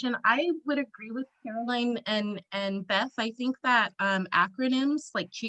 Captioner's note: none